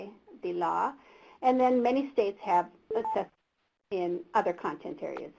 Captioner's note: beep